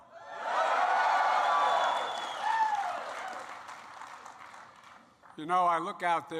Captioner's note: applause